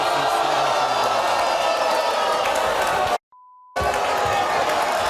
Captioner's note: audience roars